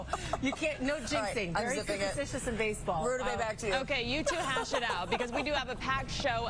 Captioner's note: laughter